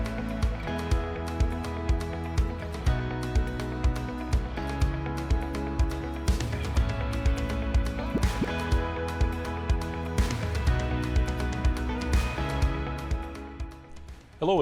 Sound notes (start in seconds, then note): 8.0 graphic pops; 9.0 upbeat music continues